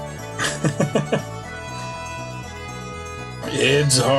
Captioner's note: laughs